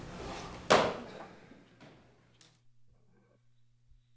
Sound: gavel pounding

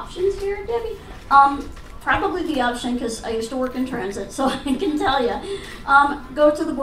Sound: laughs

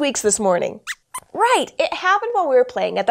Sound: squeaks squeaks

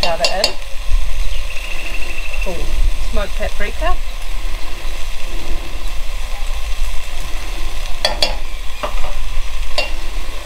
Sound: sizzling cooking sounds

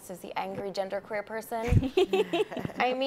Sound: chuckle

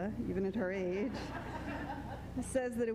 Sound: crowd laughter

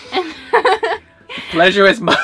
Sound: laughs

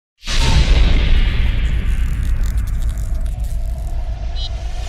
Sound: dramatic electric buzz

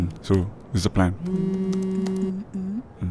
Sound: phone chimes

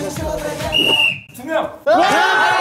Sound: whistle

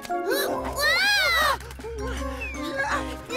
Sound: screams

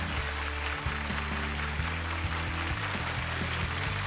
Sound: applause

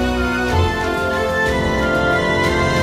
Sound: none

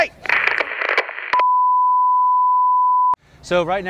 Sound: screen beeps

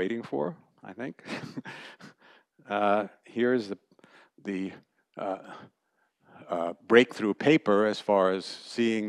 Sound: laughter

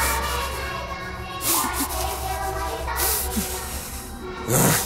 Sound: choir continues; heavy breathing; breathing intensifies; choir continues; grunting

